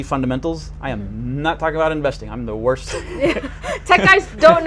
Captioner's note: laughs